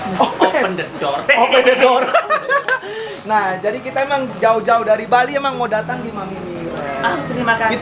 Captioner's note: laughing